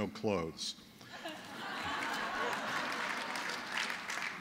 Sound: laughter

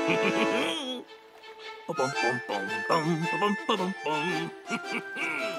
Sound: chuckling; humming; chuckling

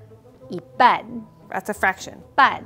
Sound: speaking in mandarin

